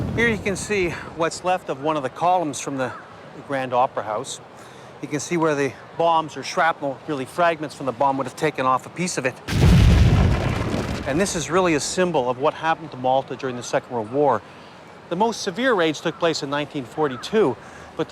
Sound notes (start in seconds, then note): 9.5 bomb explodes